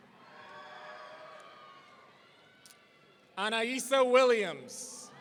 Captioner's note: audience cheering